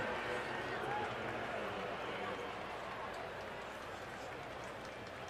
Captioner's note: pa announcement